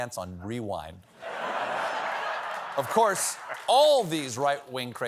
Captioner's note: laughter